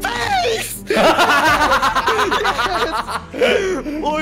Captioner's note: laughing